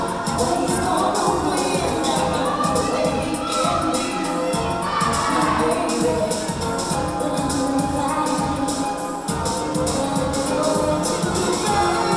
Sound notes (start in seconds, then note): 3.8 yelling